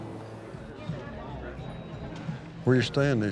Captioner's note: chatter